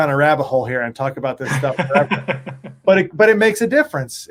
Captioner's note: laughing